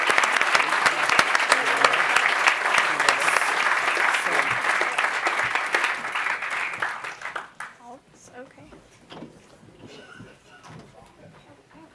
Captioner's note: applause